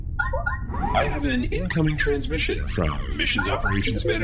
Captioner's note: incoming transmission beeps